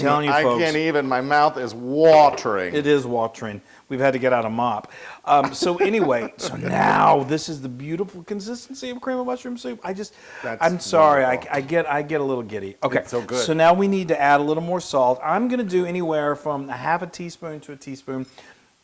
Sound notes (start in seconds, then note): 5.4 laugh